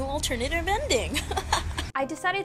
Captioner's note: laughs